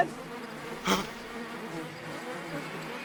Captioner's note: Sam gasps